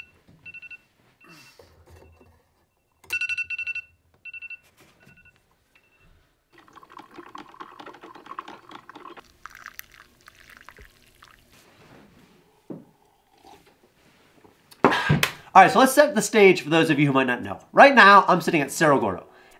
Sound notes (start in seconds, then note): 6.5 coffee percolating; 9.4 coffee trickling; 12.4 slurping; 12.4 exhaling